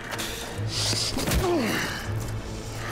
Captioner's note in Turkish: Yumruk sesi; Müzik - Gerilim